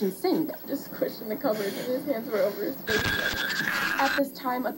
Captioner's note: electronic noise